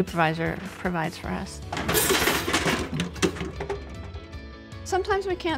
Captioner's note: clattering